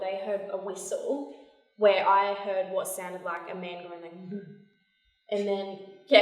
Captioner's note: moan